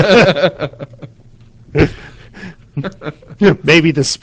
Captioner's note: laughing